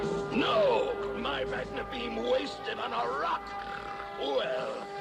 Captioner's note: snort